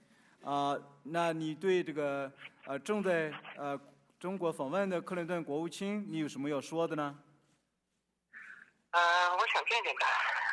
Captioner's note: speaking Chinese